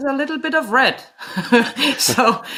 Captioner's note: laughs